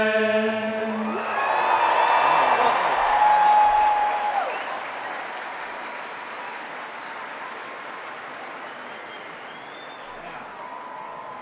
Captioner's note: applause and Cheering